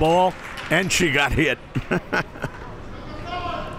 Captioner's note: laughs